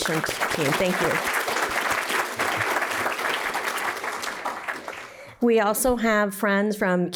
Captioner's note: applause